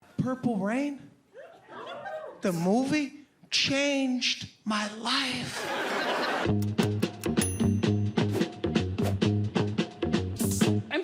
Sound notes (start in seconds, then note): 5.4 audience laughs; 6.4 percussive music